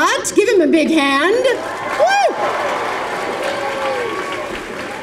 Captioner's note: applause